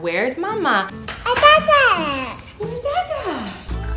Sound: baby talk

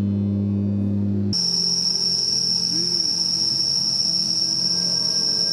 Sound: japanese cicadas scream

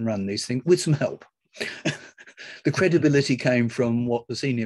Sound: laughs

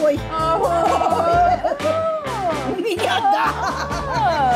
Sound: laughing

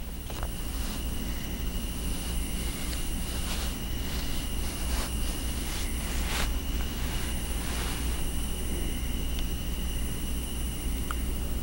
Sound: quiet nighttime noises

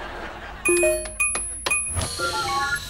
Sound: beeping

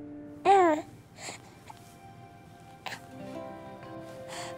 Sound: baby cooing

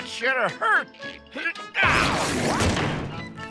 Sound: grunting

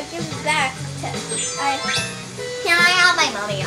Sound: chimes as outfit changes

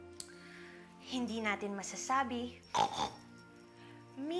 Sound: snorts

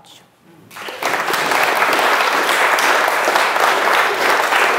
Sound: audience applauding

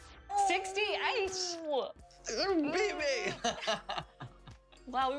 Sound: laughter

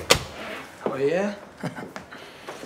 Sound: chuckles

